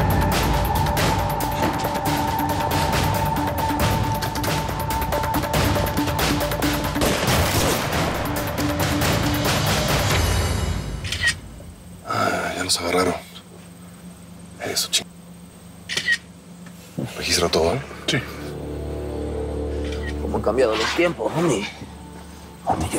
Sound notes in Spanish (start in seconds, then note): 7.0 Disparos; 11.0 Clic de la cámara; 15.9 Clic de la cámara